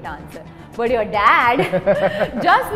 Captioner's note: laughs